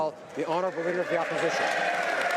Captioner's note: applause